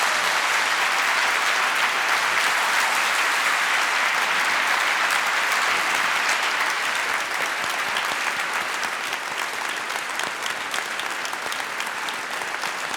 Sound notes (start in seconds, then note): 3.6 applause